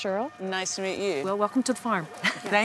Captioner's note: laughs